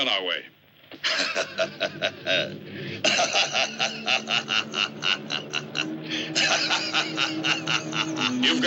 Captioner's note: laughing